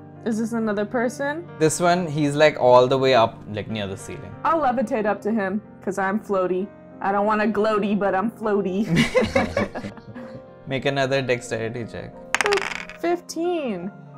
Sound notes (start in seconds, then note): 8.8 laughter